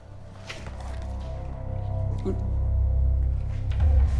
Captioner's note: confused grunt